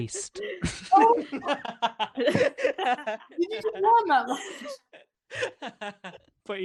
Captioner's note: laughter